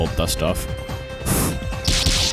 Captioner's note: blow